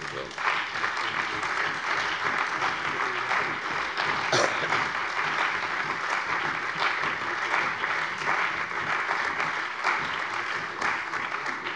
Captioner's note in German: Beifall bei der CDU, dem BÜNDNIS 90/DIE GRÜNEN und der SPD